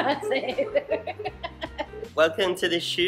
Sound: laughing

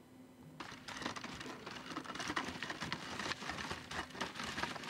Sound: feet clatter

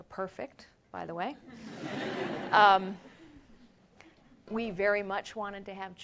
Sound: laugh

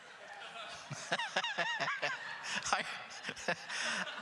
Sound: laughing

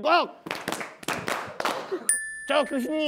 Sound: clap

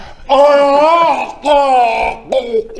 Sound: ggggaaargh; hhrrrllrrgh

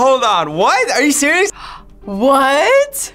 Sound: gasps

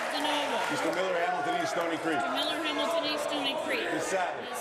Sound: applause

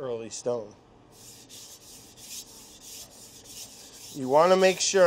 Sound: knife scraping

